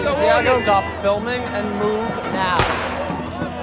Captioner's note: explosion